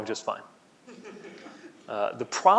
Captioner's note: laughing